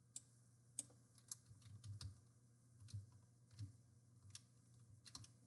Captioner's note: mouse clicking